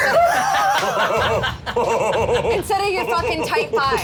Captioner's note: laugh